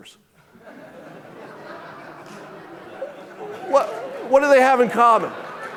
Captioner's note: audience laughing